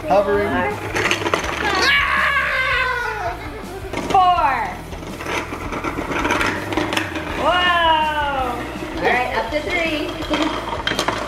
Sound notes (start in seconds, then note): 1.6 yells; 5.2 rattling; 7.4 exclaims; 11.0 rattling